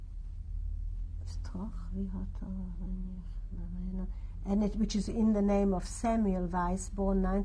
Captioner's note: non-english speech